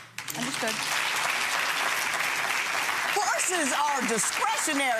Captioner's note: clapping